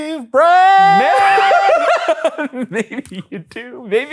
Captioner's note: laughing